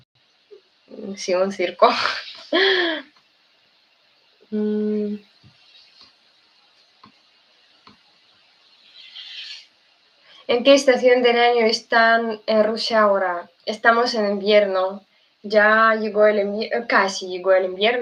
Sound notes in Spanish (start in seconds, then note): 5.9 resoplido